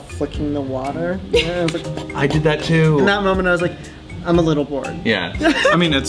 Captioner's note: laughs